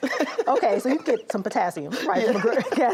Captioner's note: laughs